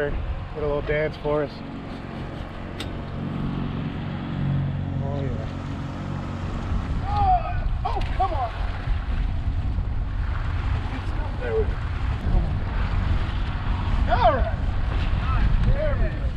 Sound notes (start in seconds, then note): 6.6 boat engine idling; 12.5 fish splashing